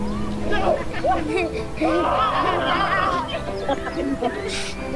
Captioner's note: kids playing